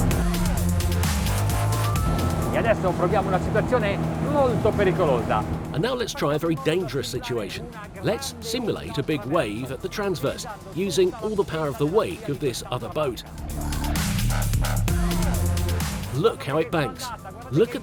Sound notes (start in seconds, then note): 0.2 intense electronic music; 3.0 speaking foreign language